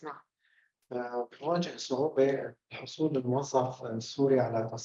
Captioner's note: speaking arabic